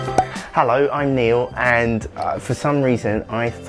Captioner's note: drilling noise